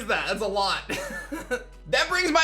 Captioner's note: chuckles